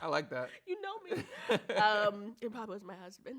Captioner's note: laughs